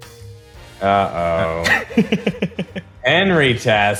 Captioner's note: laughs